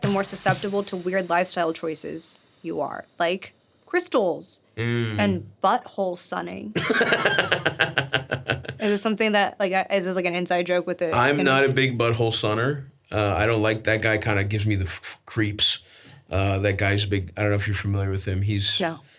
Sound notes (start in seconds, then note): 6.7 Stavros laughs